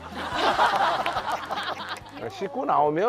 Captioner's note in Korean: 크핫